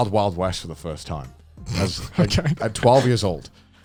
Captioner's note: laughs